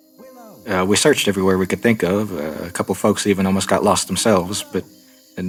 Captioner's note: background search calls for willow